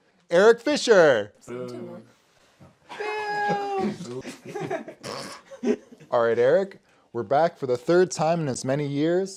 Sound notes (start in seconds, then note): 1.4 boos